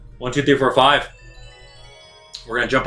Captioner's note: game sounds